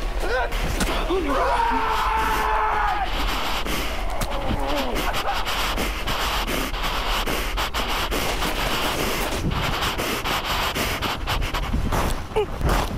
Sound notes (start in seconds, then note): 0.3 grunting; 1.2 Greg screaming